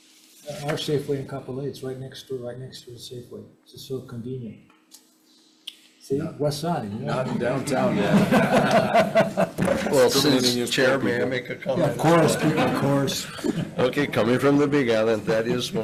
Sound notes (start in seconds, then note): 8.6 group laughing